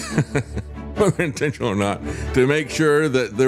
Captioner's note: laugh